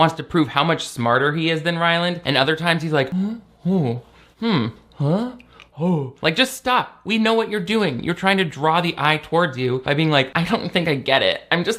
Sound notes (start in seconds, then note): 3.1 confused grunting